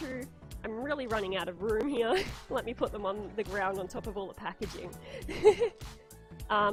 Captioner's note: laughs